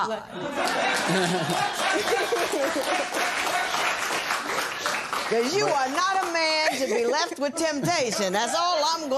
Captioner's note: laughter and applause